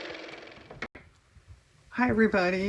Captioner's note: car motor